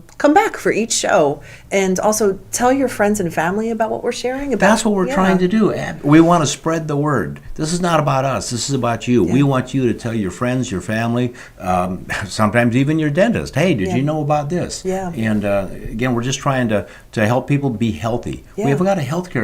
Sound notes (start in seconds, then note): 12.9 laughter